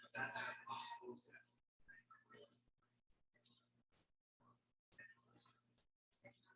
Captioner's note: people chattering indistinctly